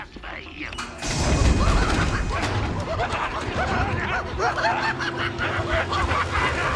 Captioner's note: door opening; patients laugh manically